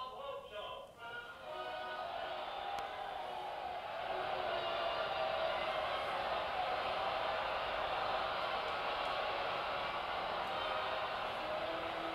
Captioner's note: audience cheering